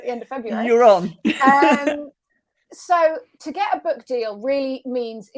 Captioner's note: chuckles